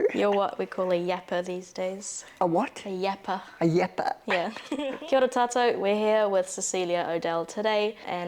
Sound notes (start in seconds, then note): 4.3 laughter